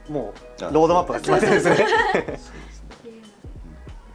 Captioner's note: laughs